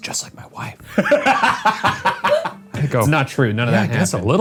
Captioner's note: laughs